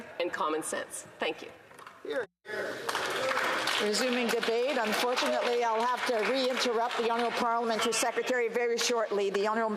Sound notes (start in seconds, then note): 5.6 some Applause